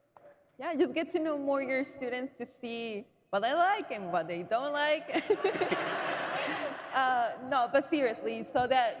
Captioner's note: laughter